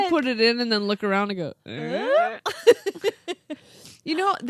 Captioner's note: laughs